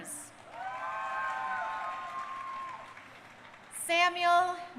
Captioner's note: crowd cheering